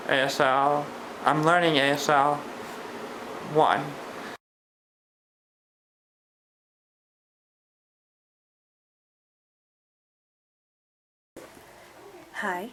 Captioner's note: pause